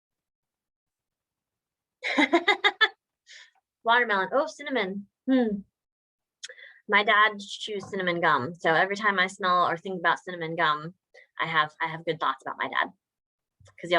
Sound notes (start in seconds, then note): 2.1 laughs